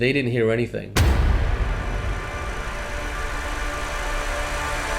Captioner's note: suspenseful noise